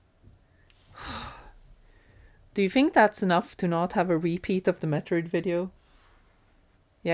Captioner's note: exhales